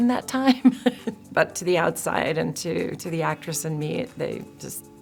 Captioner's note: chuckles